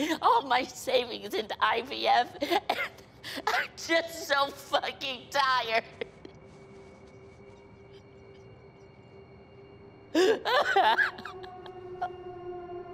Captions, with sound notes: all my savings into IVF. And I'm just so fucking tired. [SOBBING] [TENSE MUSIC] [CRYING]